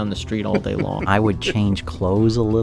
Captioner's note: laughs